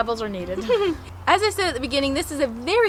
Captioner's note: chuckles